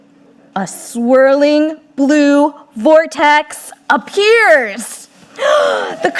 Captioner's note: gasping